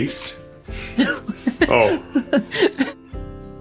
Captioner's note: laughs